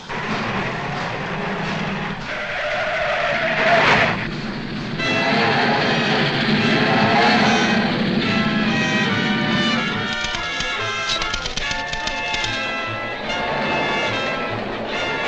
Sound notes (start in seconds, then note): 0.1 engine rumbling; 2.9 tires screeching; 5.2 dramatic music; 11.0 typewriter clacking